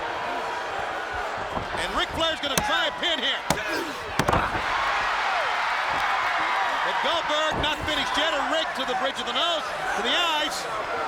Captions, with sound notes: Ric Flair's gonna try a pin here. (Flair grunts) (crowd cheering) But Goldberg not finished yet, and Ric to the bridge of the nose, to the eyes.